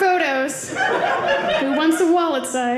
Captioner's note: audience laughing